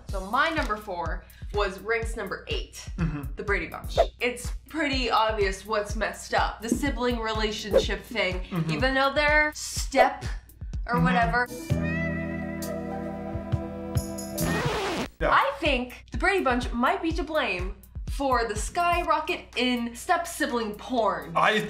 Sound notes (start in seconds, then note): 14.4 record scratch